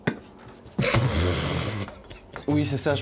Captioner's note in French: rire